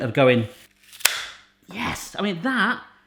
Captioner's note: slicer snaps